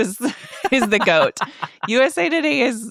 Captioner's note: laughing